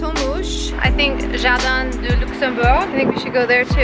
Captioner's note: speaks foreign language